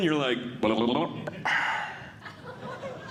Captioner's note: imitating Snorkeling Sounds; audience Laughing